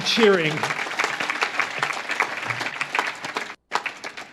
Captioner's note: audience claps